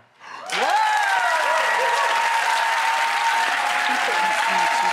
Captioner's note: audience cheering